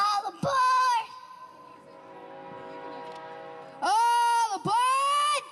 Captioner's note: train whistle